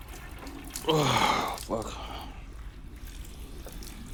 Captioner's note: moans